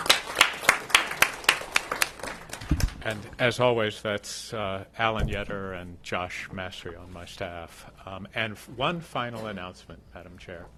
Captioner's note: applause